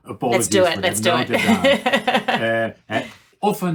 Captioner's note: laughing